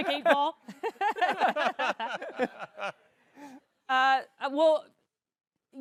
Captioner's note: chuckling; laughs